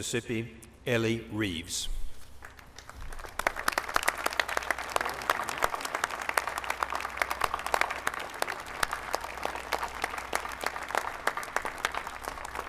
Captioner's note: applause